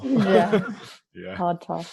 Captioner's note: group laughing